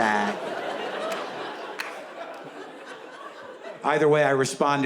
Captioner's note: audience laughs